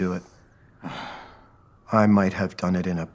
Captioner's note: sigh